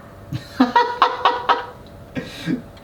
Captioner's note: laughing